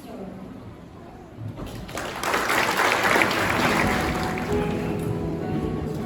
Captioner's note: applause